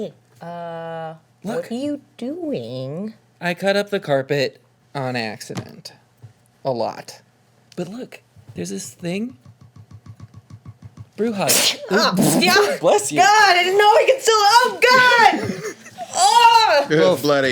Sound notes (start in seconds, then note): 11.4 sneezes; 15.0 laughter